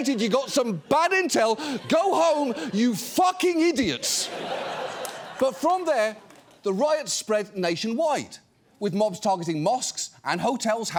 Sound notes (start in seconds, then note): 3.7 audience laughs